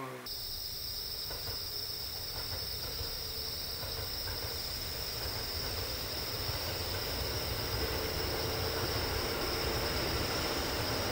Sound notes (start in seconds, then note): 0.2 insect sounds; 5.2 sound of passing train